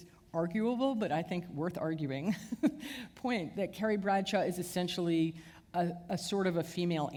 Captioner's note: chuckle